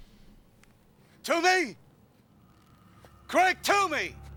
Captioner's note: shouts